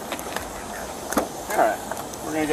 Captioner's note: door clicks open